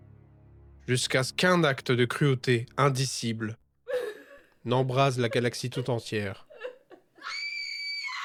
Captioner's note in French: cri